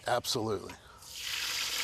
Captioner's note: oil sizzling